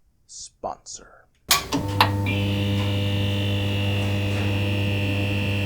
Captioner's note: lighting Hum